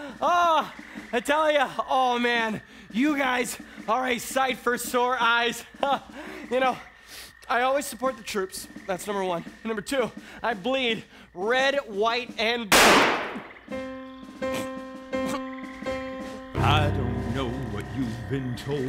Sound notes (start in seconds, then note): 12.7 gunshot